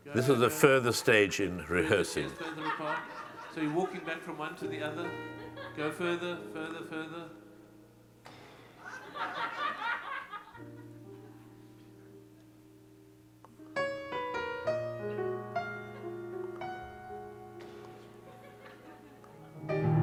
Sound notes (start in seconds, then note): 8.8 audience laughing; 13.5 piano music